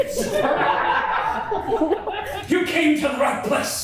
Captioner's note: cast and crew laugh